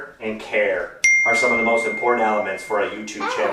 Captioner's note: ding